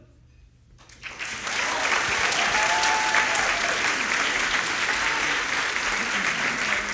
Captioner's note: audience applauding; audience cheering